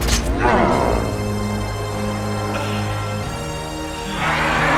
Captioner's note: riverbeast roars